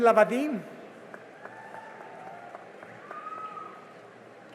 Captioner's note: cheering and applause